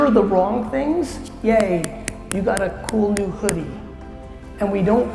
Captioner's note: claps